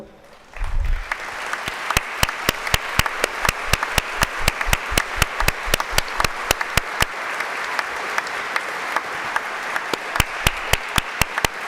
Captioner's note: applause